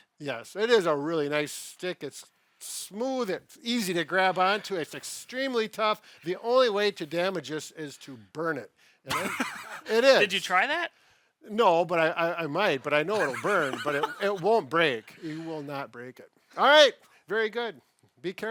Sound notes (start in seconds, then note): 9.1 laughs